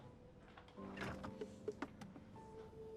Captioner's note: fridge door opening